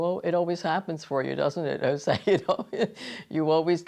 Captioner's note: laughs